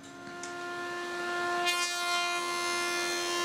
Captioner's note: whirring